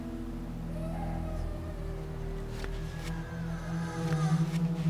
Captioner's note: muffled crying